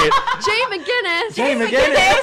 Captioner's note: laughter